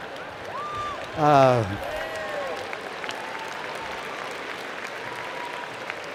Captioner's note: applause